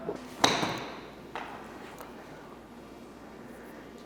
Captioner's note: golf club hits ball